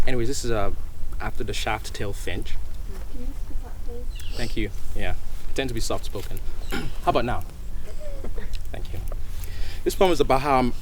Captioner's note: clears throat